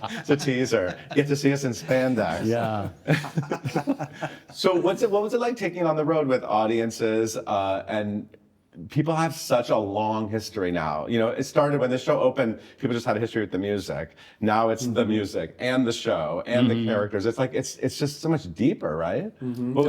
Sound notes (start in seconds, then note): 0.0 everyone chuckles; 3.4 everyone chuckling